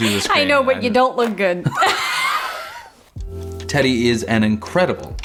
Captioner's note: laughs